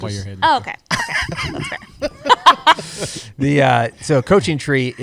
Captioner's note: laughter